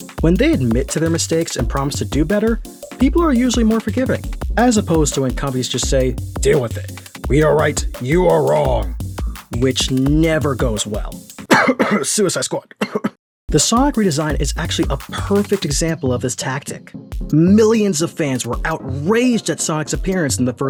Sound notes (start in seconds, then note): 11.4 cough cough